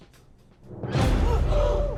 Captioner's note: tense music; gasping